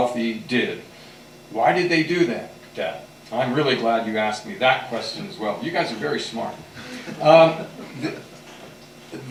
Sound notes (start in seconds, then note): 6.8 laughter